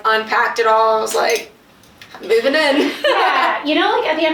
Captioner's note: laughs